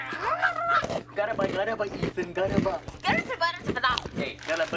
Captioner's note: chewing